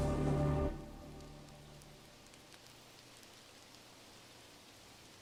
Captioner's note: birds chirping